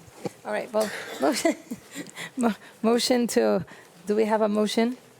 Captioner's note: chuckles